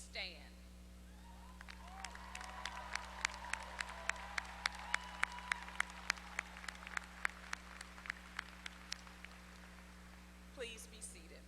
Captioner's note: applause